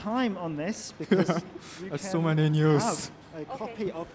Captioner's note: laughing